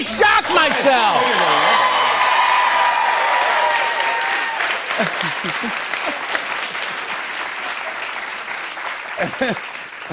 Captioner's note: cheers and applause